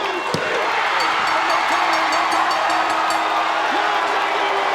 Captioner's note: audience cheers; bell rings; audience cheers drowns out commentators